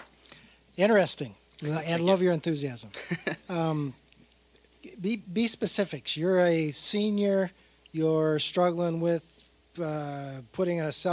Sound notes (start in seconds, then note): 2.9 chuckling